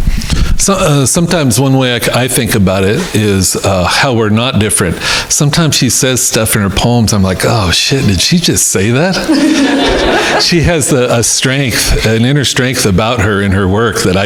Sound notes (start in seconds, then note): 9.1 crowd laughing